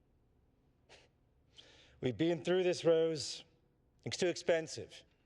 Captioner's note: scoffs